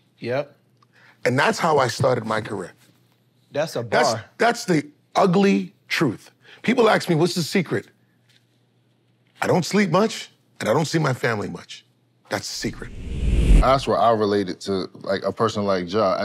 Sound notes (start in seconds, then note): 12.6 wind whooshes